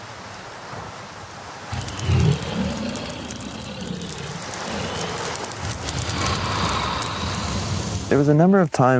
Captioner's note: wind, waves, fire breathing dragon breath